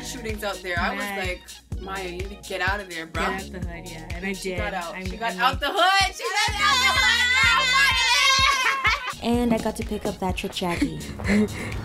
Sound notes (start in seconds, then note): 6.2 screaming & yelling